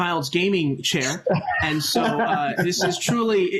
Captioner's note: laughter